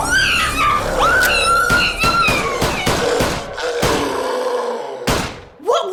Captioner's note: gun shots